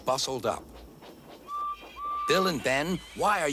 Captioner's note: toot toot